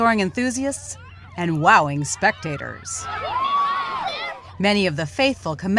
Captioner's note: cheers